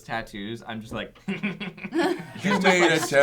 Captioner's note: laughter